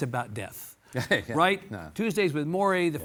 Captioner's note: Mitch laughs